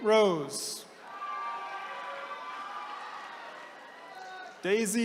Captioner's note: attendees cheering